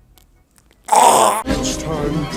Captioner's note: worse retching sound